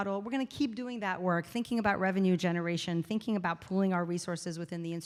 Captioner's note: none